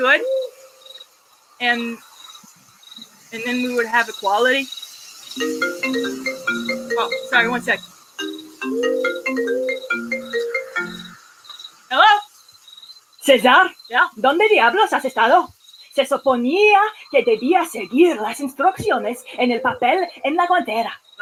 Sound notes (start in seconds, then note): 5.4 mobile phone rings; 9.1 caller speaks in Spanish